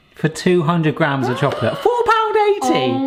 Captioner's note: gasps